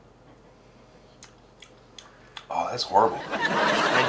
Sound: smacks lips; audience laughs

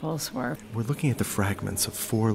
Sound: voiceover

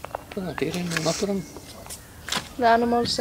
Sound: speaks Icelandic

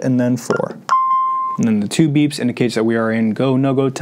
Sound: beeping

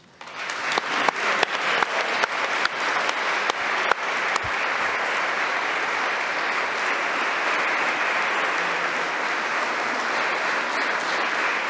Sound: applause

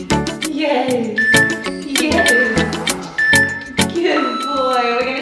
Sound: countdown timer beeping

